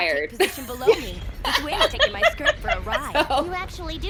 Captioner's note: laughter